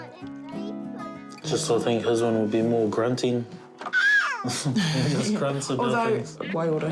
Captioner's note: both laugh